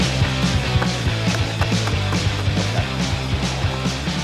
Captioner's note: flyers thudding